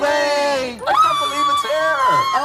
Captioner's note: cheers